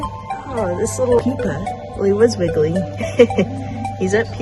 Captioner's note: laughs